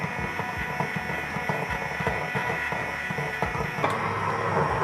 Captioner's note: blender whirring